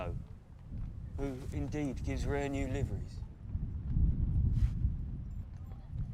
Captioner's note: thunder rumbling